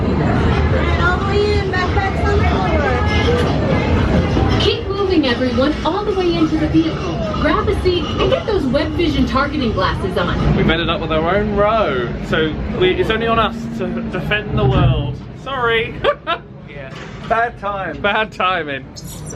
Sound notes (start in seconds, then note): 15.9 laughs